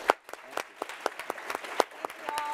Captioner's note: applause